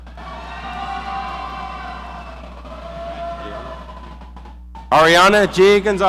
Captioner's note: audience cheering